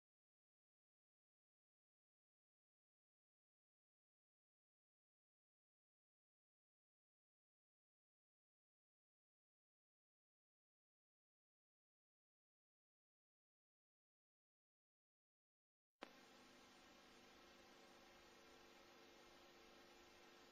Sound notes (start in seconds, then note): 0.2 silence; 8.4 silence continuing; 16.0 videocassette static